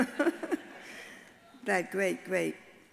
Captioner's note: all laugh